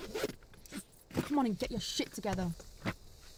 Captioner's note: zipper zips